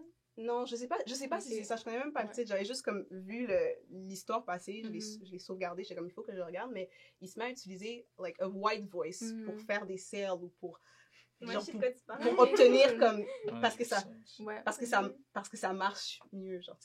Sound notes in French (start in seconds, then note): 8.6 white voice